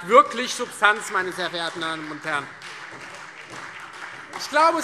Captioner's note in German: Beifall Freie Demokraten und SPD